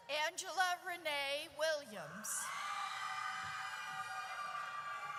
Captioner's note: audience cheers